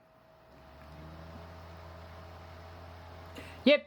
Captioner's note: laptop dvd drive spinning